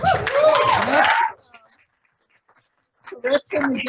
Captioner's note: audience applauding